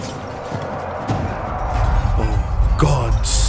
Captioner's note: distant Dragon Roar